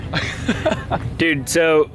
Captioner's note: laughing